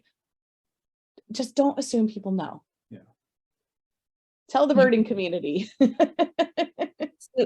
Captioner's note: laughter